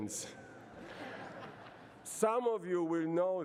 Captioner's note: laughter